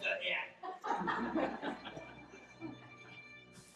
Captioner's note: laughter